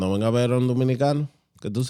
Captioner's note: speaking Spanish